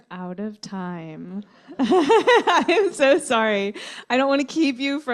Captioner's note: laughter